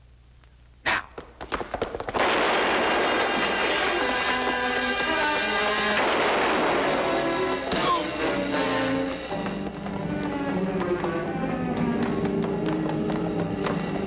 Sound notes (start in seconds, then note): 0.9 gun firing; 2.1 dramatic music; 4.8 gun firing